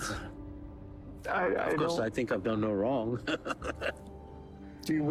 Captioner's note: chuckling